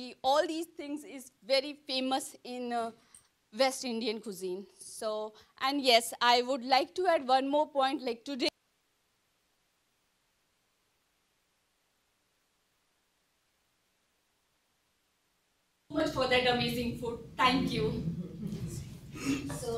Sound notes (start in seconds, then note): 8.8 microphone audio cuts out